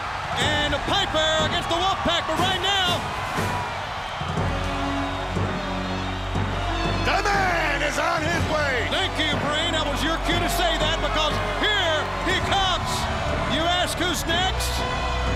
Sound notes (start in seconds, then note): 6.3 crowd cheering